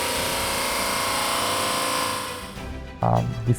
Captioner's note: machine Sound Effect